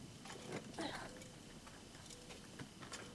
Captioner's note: Clive grunting